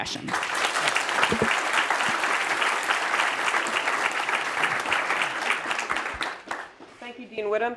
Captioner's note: applause